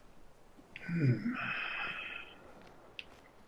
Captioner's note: sighing